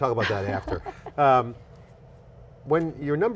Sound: laughs

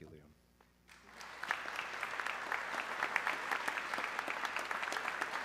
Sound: audience clapping

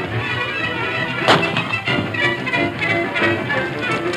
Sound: gun roars

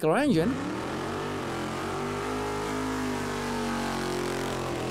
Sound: engine revving

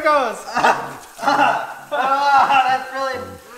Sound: yelling

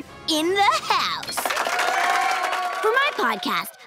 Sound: crowd cheering

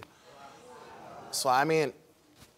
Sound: audience gasps

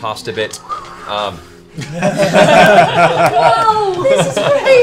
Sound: laughter

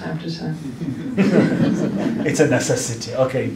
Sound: laughter

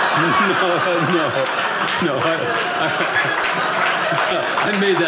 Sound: audience laughing

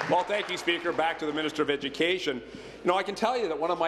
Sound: applause

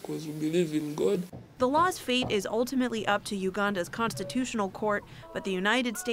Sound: voice-over

